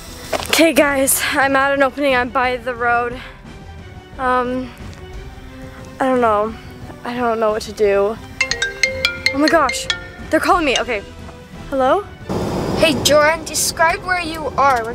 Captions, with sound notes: - 'Kay, guys, I'm at an opening. I'm by the road. (dramatic music) Um, I don't know. I don't know what to do. (cell phone rings) Oh, my gosh, they're calling me. Okay. Hello? - Hey, Jordan, describe where you are.